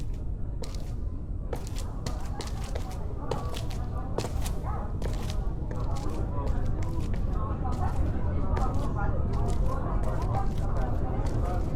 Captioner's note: people chattering nearby